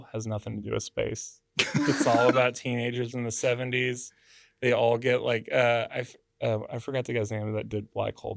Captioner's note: laughs